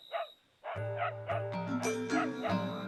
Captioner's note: dog barking; dog barking continues